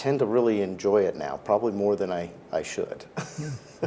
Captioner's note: laughs